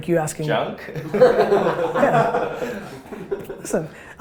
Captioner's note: laughter